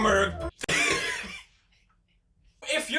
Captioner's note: Pewds luaghs